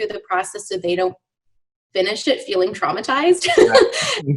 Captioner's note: laughs